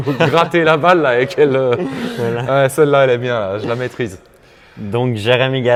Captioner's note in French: rires